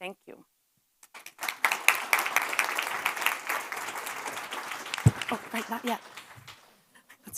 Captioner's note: applause